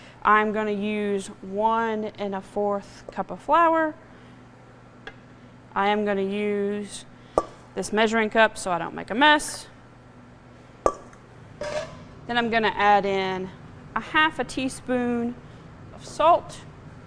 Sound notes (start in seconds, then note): 11.6 kitchen utensils clattering